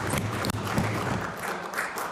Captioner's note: applause